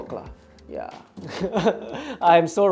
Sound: laughs

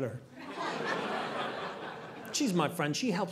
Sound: audience laughing

